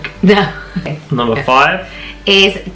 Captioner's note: laughing